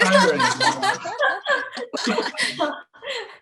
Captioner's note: laughter